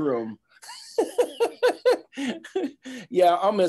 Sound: giggling

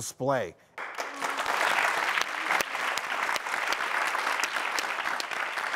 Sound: audience applauding

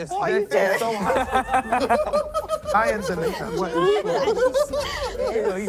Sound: laughing

